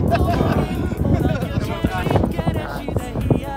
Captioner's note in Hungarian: nevetés, lihegés